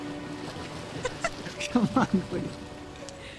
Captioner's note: Robin laughs